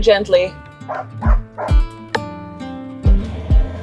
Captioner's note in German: Hund bellt; sanfte Instrumentalmusik